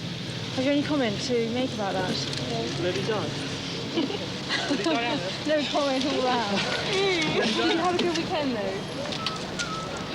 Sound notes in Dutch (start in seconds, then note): 4.0 lachend